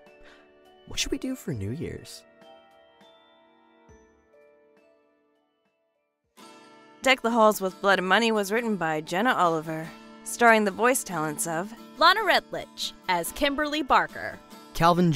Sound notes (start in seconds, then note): none